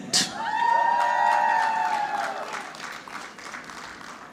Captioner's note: audience clapping